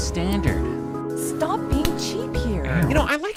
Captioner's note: date slaps hand